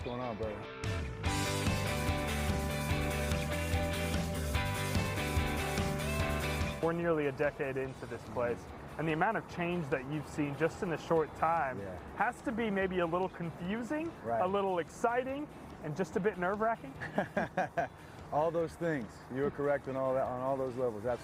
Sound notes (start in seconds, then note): 18.5 laugh